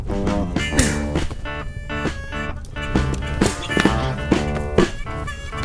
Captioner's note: hitting